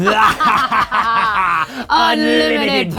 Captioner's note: evil laughter